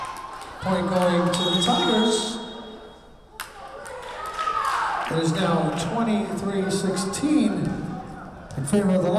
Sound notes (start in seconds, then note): 1.2 whistle blowing